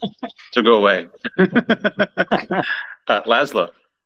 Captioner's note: laughter